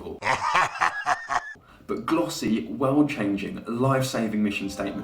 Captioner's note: comic evil laugh